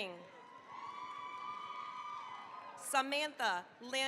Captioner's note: cheering, applause